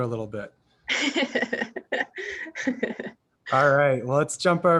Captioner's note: laughs